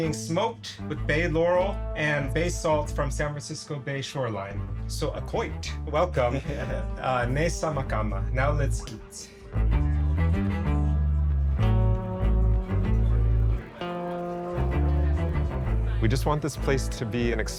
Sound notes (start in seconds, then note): 5.0 speaks Chochenyo